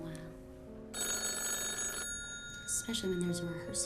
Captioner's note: phone ringing